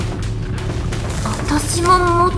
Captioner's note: rustle rustle